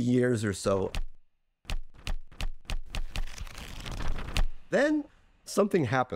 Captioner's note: snapshots clicking